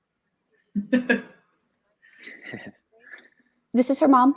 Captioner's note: laughter